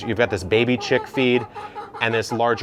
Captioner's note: chickens cluck